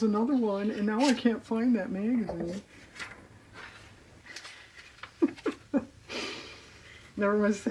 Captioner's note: laughs